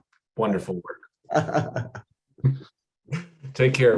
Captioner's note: laughter